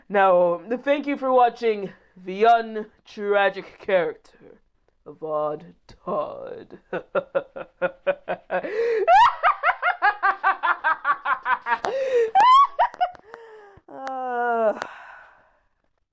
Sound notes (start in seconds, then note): 6.8 starts laughing like a villain; 10.8 continues cackling like a madman